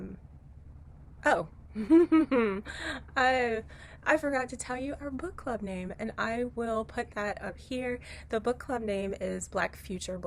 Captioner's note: chuckle